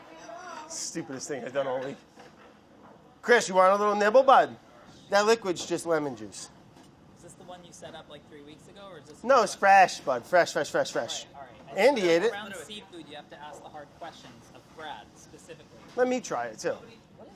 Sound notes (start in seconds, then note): none